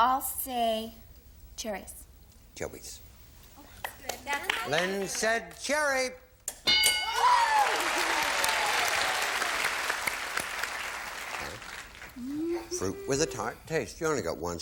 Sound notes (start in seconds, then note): 6.6 bell; 7.2 applause